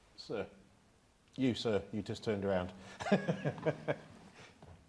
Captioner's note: laughs